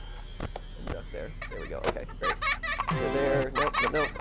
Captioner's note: Balloon Boy's Laughter